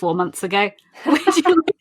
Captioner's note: laughs